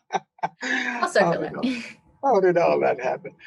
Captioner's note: laughing